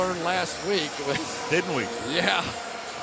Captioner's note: chuckles